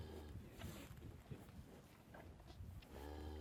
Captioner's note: cows mooing